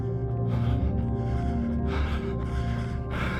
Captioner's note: heavy breathing